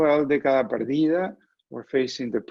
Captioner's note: foreign language